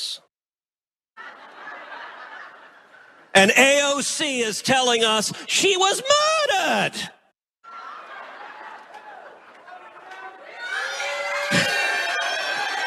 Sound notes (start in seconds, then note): 1.2 laugh; 7.2 applause